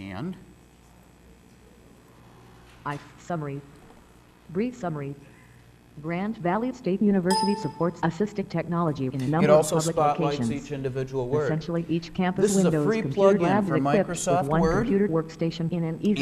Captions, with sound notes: AND... >> (female voice) SUMMARY-- BRIEF SUMMARY. GRAND VALLEY STATE UNIVERSITY SUPPORTS ASSISTIVE TECHNOLOGY IN A NUMBER OF-- >> IT ALSO SPOTLIGHTS EACH INDIVIDUAL WORD. THIS IS A FREE PLUG-IN FOR MICROSOFT WORD,